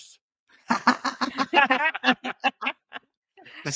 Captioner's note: laughing